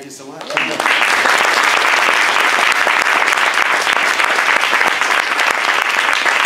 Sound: applause

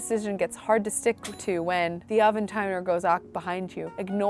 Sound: timer dings

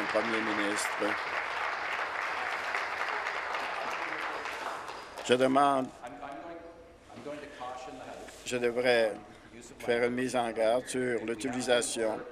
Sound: applause

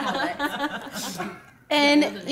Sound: laughing

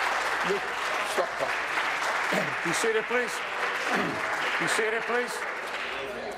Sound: applause

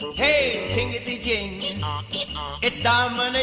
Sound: donkey braying

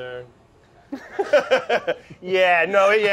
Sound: both laugh

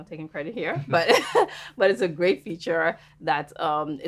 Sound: laughing

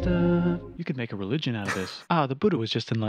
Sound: snickering

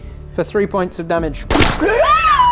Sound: bang!

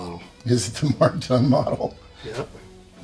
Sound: laughing

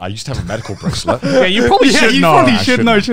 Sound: laughing

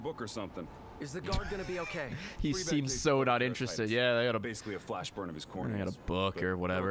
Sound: laughs

